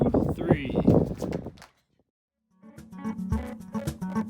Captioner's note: feet clicking; light Latin guitar music